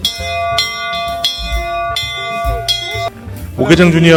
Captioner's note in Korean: 종소리